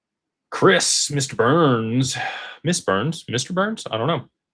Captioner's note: sighs and gasps